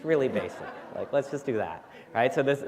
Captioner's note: laughter